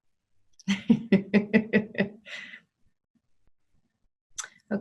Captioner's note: laughs